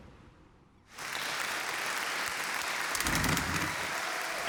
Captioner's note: applause